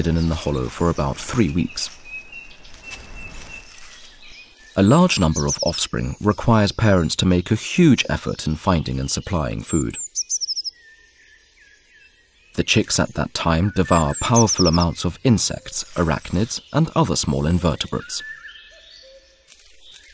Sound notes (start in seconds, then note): 2.2 sounds of nature; 10.6 sounds of nature; 18.5 music, sounds of nature